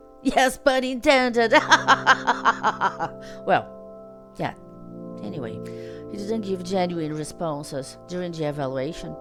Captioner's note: laughs